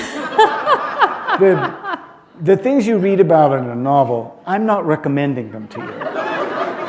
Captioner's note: laughter